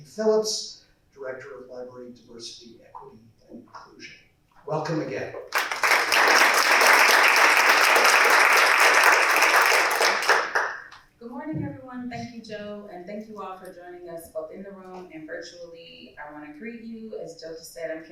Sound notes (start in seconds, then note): 5.5 applause